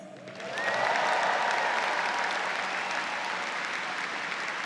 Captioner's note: audience cheers